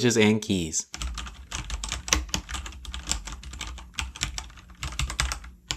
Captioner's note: keyboard typing